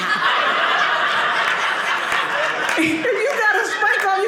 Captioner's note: audience laughing